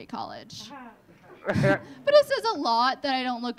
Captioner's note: audience laughing